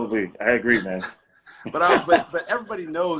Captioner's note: laughing